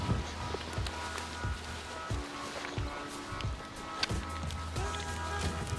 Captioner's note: rustling of grass and gear